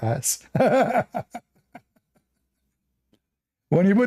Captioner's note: Ketawa